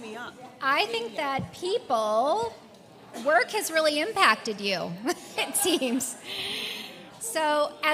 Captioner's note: laugh